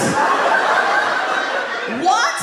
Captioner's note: audience laughs